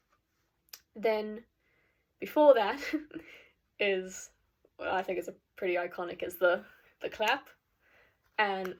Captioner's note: clap